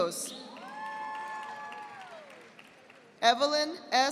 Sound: audience applauding

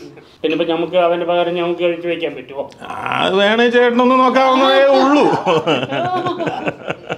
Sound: laughs

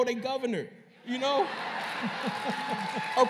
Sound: laughter and applause

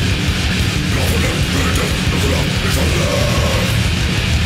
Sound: moar inhuman growling

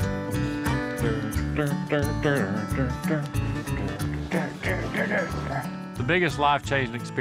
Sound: humming

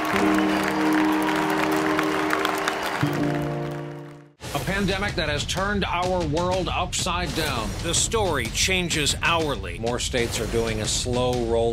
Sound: applause

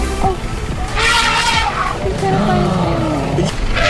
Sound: elephant trumpet

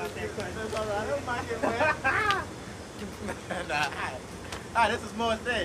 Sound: man laughs

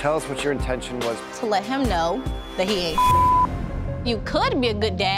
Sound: beeping

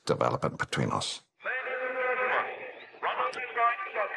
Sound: loudspeaker

